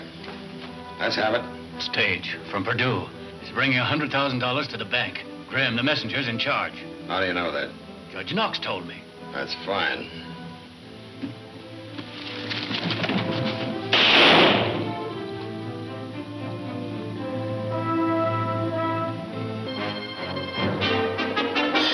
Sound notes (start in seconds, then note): 12.3 thudding; 12.4 gunshot; 17.9 intense instrumental music